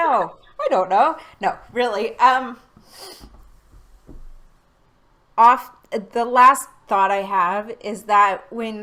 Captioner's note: laughing